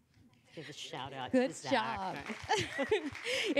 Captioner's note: applause